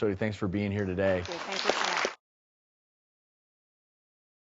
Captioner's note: applause